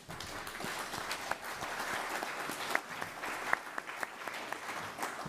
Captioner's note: applause